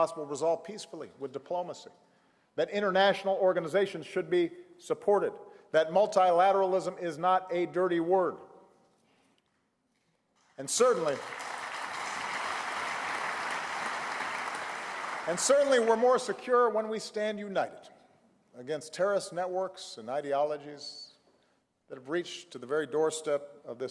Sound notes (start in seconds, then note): 10.7 applause